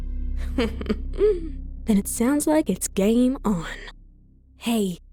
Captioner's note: laughs under breath